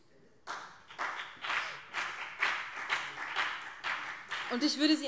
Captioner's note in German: Beifall BÜNDNIS 90/DIE GRÜNEN